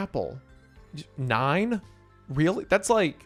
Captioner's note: stammers